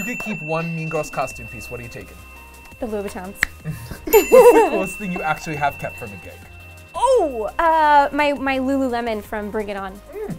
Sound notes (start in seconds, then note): 0.0 bell dings; 4.0 laughter; 4.0 bell dings